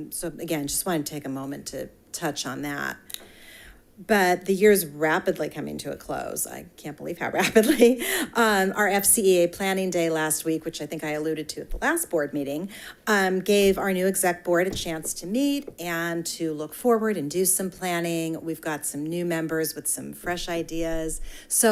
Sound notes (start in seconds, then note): 7.5 chuckles